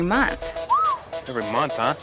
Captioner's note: Tommy whistling